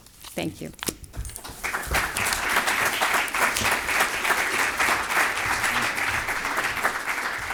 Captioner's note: applauding